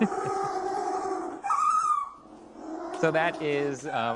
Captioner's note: chuckles; penguin continues squealing